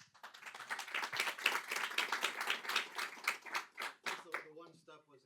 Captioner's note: applause